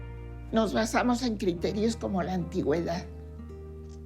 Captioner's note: in Spanish